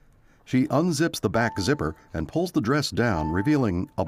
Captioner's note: bell chiming